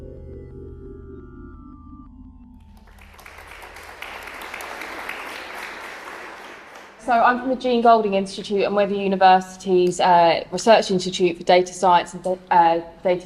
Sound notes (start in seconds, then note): 2.7 applause